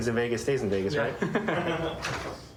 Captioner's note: laughter